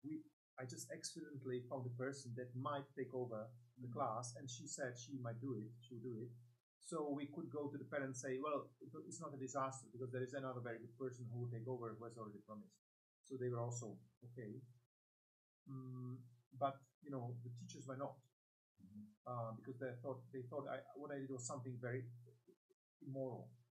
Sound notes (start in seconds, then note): 15.6 hums